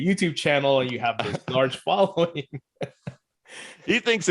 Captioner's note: laughs